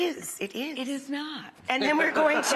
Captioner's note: people laughing